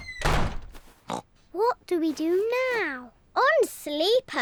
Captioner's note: oinks